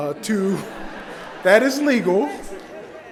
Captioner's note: laughter